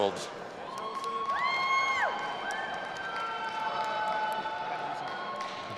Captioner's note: audience applauding and cheering